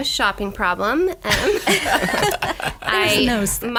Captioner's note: laughing